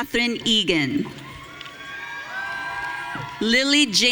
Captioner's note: audience cheering